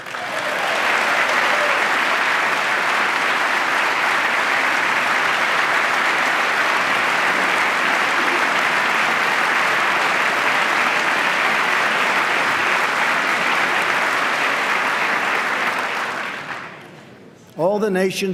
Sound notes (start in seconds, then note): 8.2 applause